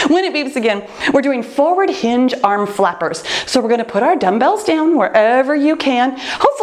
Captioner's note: none